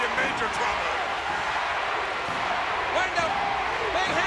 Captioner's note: crowd cheering